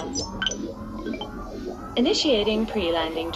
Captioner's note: another tone sounds